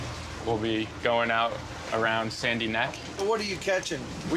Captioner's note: none